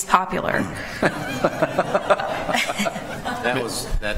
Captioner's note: laughter